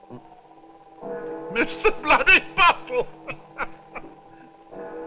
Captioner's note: clock gongs; laughing